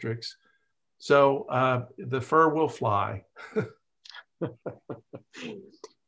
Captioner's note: chuckles